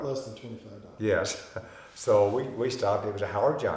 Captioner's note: chuckling